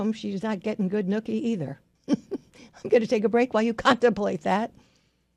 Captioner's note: laughs